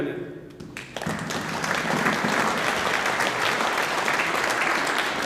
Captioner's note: audience applauding